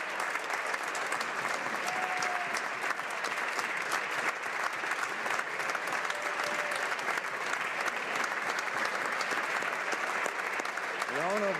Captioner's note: applause